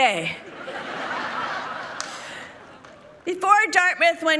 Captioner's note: people laughing